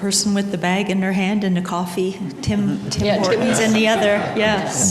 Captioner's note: laughter